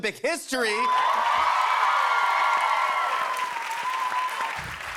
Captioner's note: cheers and applause